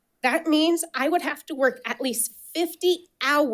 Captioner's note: none